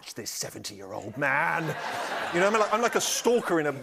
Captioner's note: laughter